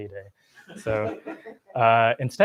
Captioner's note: laughter